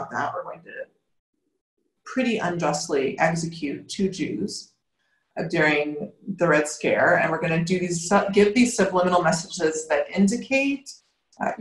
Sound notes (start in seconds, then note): none